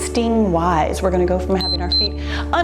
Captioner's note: timer beeps